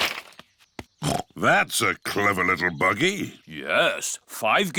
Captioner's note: snorts